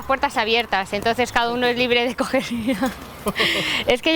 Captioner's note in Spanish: risas